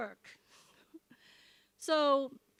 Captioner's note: giggles